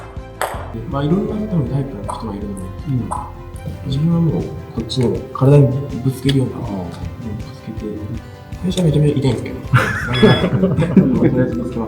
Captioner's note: haha